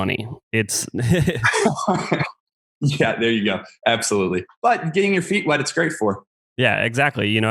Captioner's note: laughs